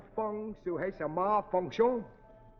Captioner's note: speaking foreign language